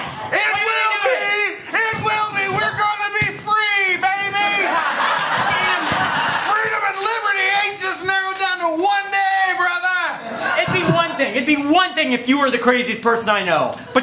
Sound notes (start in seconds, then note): 4.4 laughter